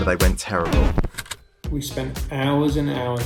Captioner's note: record scratch